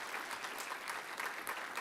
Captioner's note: applause